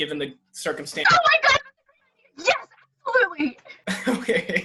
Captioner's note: shouting